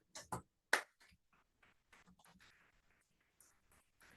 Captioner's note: applauding